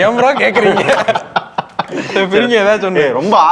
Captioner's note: laughs